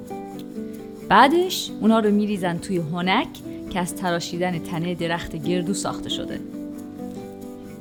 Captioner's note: mortar and pestle